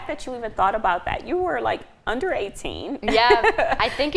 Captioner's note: laughing